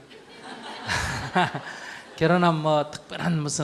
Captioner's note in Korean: 청중 웃음